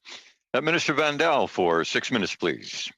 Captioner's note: speaking French